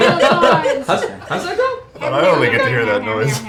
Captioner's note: laughs